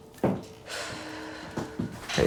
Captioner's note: sigh